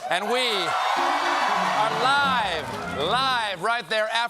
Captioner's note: cheers